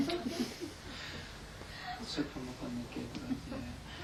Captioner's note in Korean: 청중 웃음